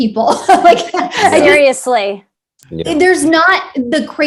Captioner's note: all laughing